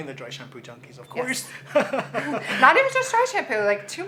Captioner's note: both laughing